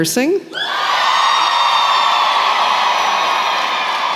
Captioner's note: cheering